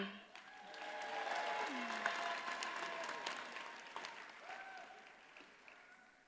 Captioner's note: audience cheers and applauds